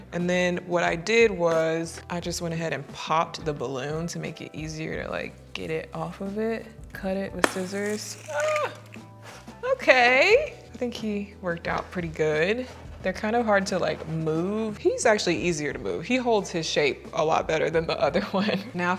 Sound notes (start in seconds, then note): 8.3 yelps